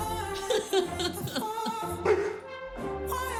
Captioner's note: laughs; barks